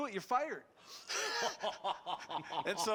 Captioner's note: laughing